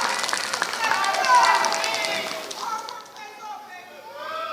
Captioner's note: applause